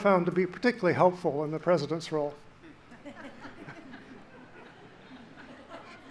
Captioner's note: audience laughing